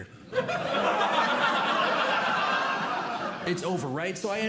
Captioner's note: audience Laughing